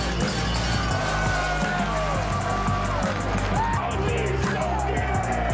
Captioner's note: people cheering